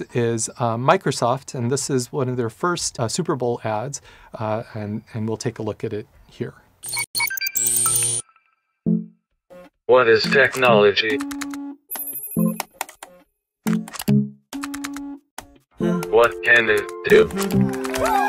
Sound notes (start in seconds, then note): 10.1 electronic Voice; 11.5 keyboard clicking rhythmically